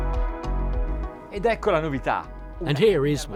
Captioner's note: speaking in a foreign language